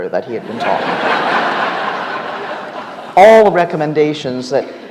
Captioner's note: audience laughs